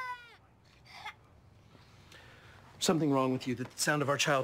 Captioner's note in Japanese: クライングが続きます